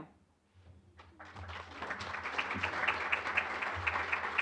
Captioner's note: applause